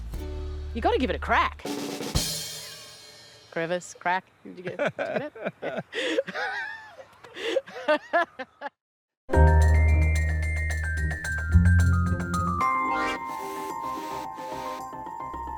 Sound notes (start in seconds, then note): 1.7 drumroll, cymbal crash; 4.6 both laugh